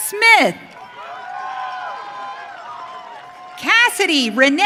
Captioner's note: audience cheering